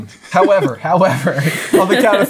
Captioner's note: chuckling; laughing